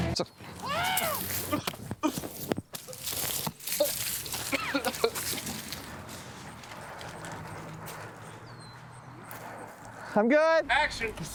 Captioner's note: screams; grunting